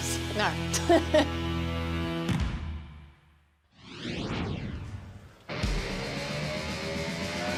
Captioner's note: laughter